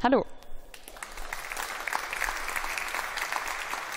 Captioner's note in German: Beifall